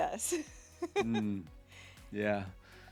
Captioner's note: laughing